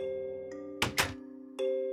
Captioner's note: door closes